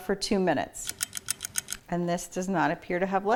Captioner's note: clock ticks